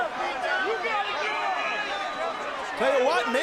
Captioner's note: audience chattering